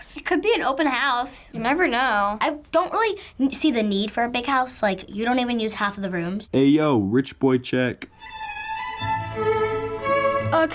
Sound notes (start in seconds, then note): 6.6 voice-over; 8.1 regal classical music